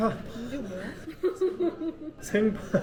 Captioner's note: Dong Wook bursts into laughter the moment he sees the sauce